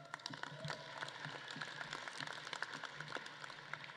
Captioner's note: audience claps